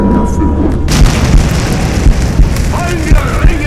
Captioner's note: 2d game explosion